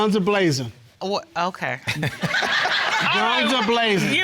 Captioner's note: laughter